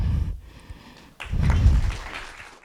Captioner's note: applause